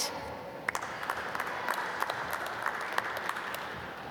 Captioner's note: applause